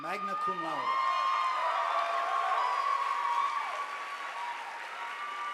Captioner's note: audience applauding